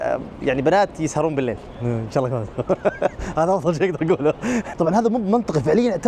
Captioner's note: laughs